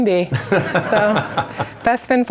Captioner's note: laughter